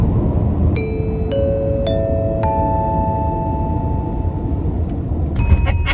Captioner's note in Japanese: アナウンス音; 効果音 チーン